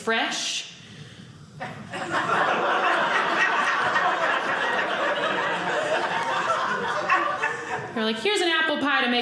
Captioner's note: audience laughing